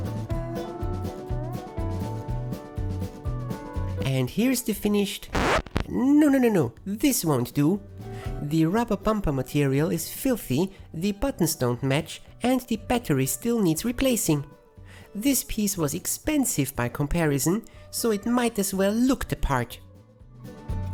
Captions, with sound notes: And here's the finished... [scratching record] nononono... this won't do. The rubber bumper material is filthy, the buttons don't match, and the battery still needs replacing. This piece was expensive by comparison, so it might as well look the part!